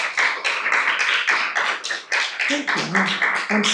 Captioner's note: audience continues applauding